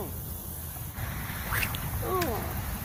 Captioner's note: splash; sling whips